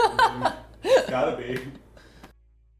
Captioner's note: laughs